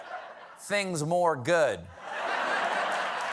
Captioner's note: applause; laughter